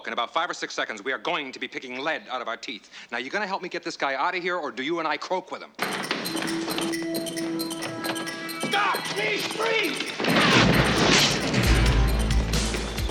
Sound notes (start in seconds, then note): 10.3 gunfire